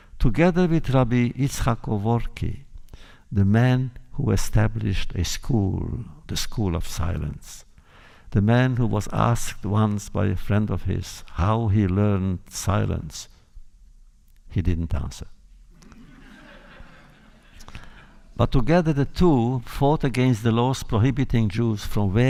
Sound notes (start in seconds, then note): 15.7 laughter